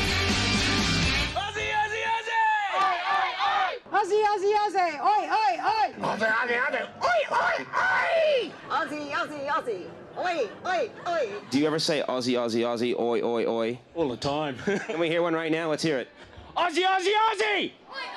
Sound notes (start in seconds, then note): 2.9 crowd